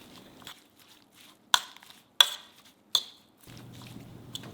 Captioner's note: fork clinks